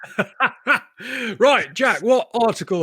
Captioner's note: laughs